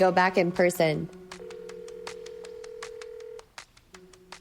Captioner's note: phone ringing